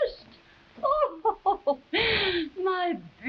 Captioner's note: Marquesa chuckling